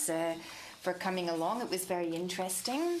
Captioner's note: speaking French